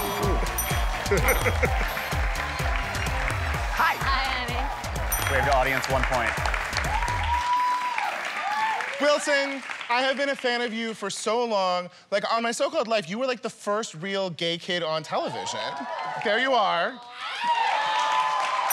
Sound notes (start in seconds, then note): 0.0 cheers and applause; 0.9 laughs; 7.1 cheers and applause; 17.1 cheers and applause